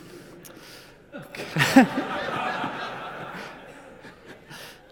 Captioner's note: audience laughs